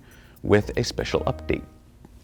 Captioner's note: funny horn sound effect